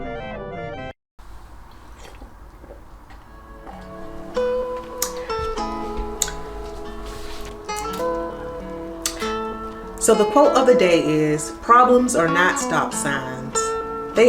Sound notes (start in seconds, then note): 2.2 sipping drink; 5.0 peaceful music